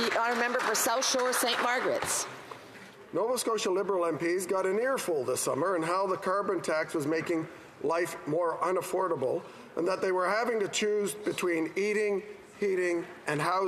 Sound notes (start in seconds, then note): 1.7 applause